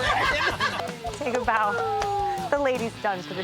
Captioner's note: group cheering